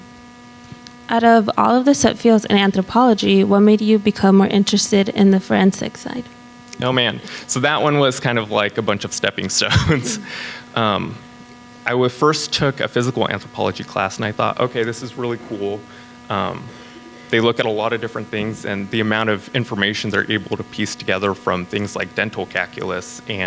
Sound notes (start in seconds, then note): 9.6 laughs